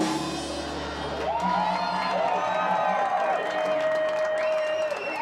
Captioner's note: clapping and cheering